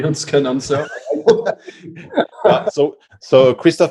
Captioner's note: laughter